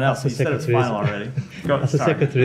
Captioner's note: laughter